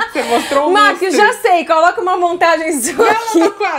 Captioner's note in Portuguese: risos